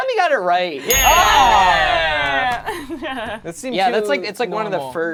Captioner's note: group cheers